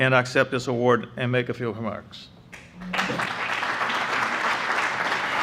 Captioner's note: applause